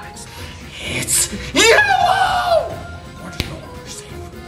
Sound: lime shouting

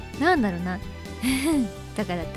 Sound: chuckle

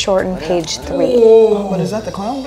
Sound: moaning

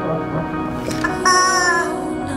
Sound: honking

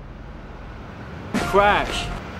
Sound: crash

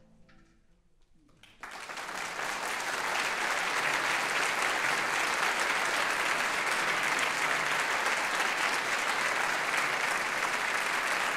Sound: applause

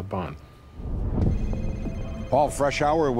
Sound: phone ringing

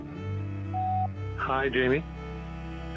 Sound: phone beeping

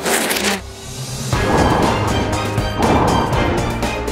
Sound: wind

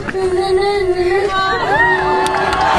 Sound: cheering

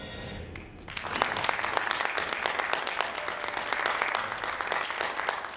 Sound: audience applauding

